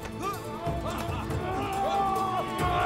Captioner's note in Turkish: Bağrışmalar